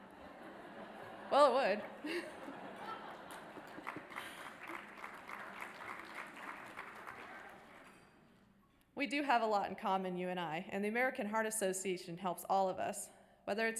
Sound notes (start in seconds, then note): 3.8 audience applause